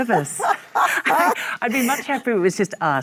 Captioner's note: Michelle laughs